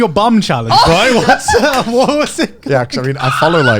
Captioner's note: laughing loudly